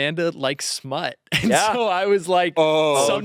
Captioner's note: laughs